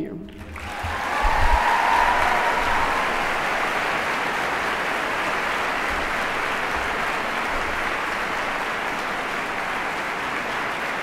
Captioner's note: applause